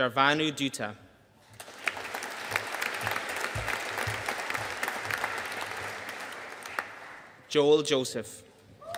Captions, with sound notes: Sharbhanu Dutta. (AUDIENCE APPLAUDING) Joel Joseph.